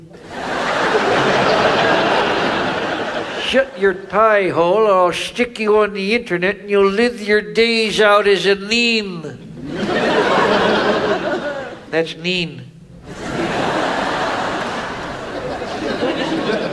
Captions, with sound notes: (audience laughs) - Shut your pie hole or I'll stick you on the internet and you'll live your days out as a meme. (audience laughs) - That's mean. (audience laughs)